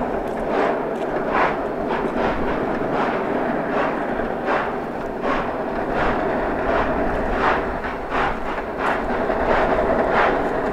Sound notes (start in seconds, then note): 0.7 rotary and locomotive sounds